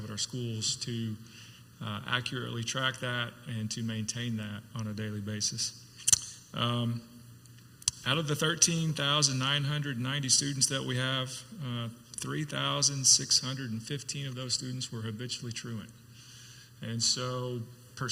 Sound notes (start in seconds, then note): none